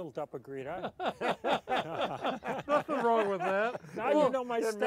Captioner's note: laughing